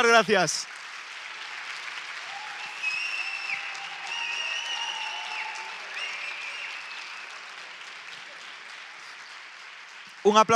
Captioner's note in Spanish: Aplausos